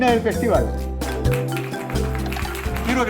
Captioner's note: clapping